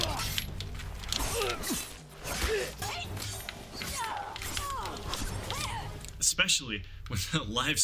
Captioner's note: game sounds